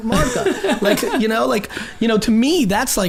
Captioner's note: group laughs